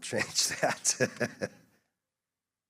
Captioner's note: laughs